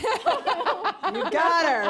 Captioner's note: laughter